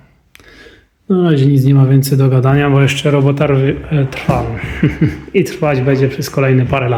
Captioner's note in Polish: śmiech